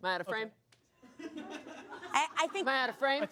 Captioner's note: audience laughs